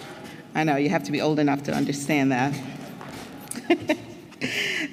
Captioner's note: laugh